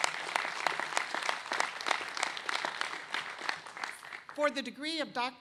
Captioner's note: applause